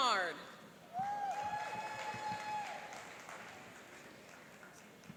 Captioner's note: cheering and applauding